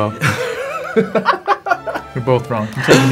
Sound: Jaboukie and interviewer laughing

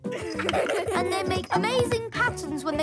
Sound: giggles

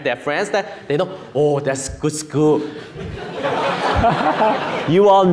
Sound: audience laughing

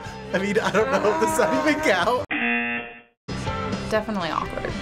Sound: buzzer

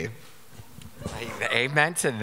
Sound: audience laughing

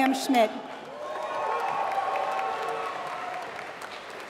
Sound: applause

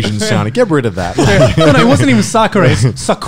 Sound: laughing softly

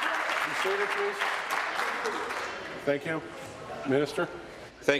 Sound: applause

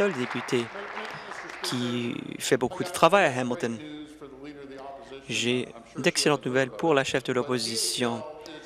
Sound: applause

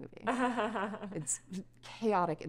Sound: Taylor laughing

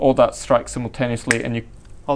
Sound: click

